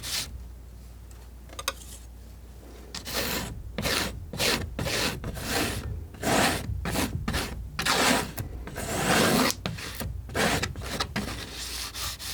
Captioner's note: scratching